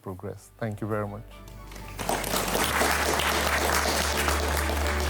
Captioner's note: audience applauds